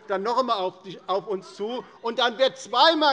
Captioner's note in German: Zurufe von dem BÜNDNIS 90/DIE GRÜNEN